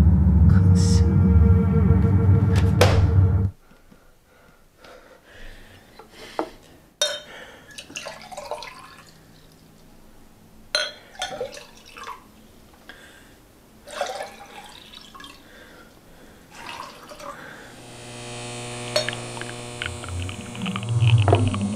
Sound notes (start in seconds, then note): 7.0 glass clanks; 7.7 water pour; 17.5 electrical sound